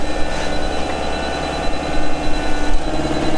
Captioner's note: roaring machine noise, rattling